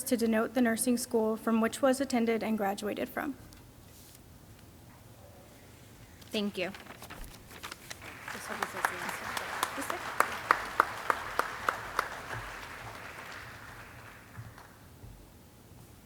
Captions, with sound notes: to denote the nursing school from which was attended and graduated from. - Thank you. (paper shuffling) (audience clapping) (nurses chattering distantly)